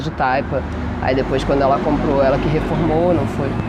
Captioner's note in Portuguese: voz cortada